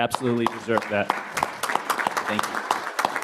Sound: applause

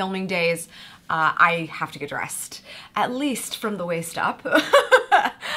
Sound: laughs

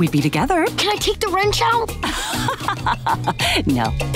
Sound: laughing

